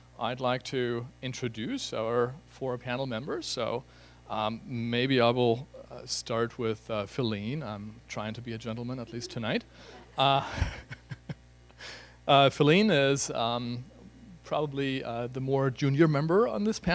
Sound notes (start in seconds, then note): 9.8 laughter